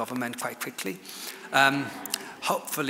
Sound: audience laughs

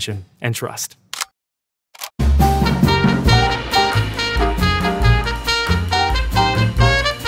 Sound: camera clicking; upbeat music

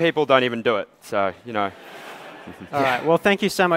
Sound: laughter

